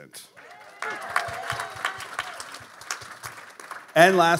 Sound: audience applauding

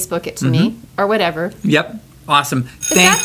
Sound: school bell rings

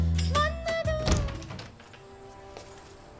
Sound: door opens

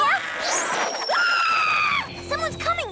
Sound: screaming

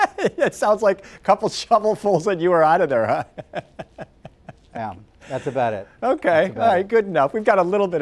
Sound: laughter

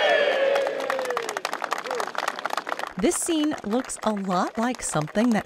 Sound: cheers

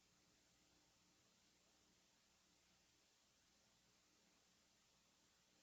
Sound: none

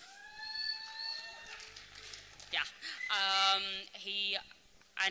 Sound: applause

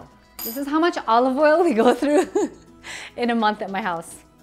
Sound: giggles

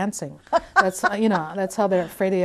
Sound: laughing

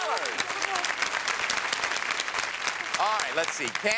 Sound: applause

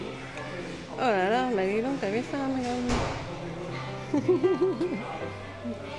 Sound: laughs

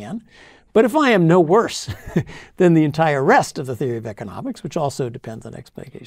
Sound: laugh

